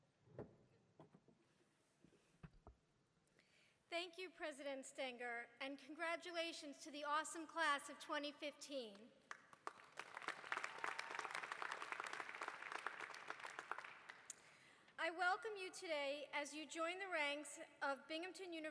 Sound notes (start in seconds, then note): 9.2 applause